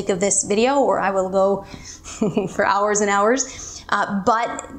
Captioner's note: chuckles